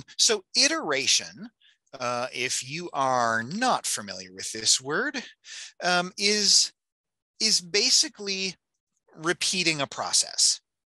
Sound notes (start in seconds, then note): none